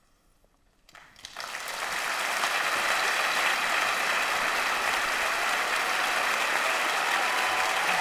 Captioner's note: audience applauding and cheering